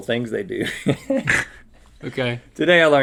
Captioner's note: both laughing